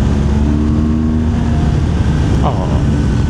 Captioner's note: engine